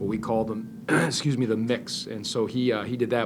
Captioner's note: clears throat